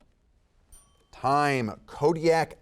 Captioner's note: timer dinging